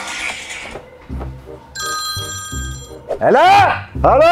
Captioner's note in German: Handy klingelt